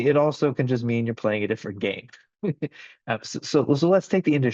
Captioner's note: laughs